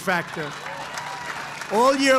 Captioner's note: applause